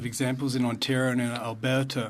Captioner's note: speaking French